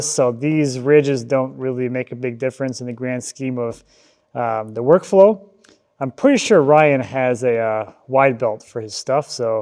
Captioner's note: none